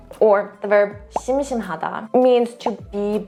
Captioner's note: speaking in Korean; speaks in Korean; bubble bursting; bubble popping